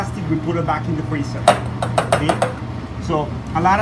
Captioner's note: bangs spoon on pot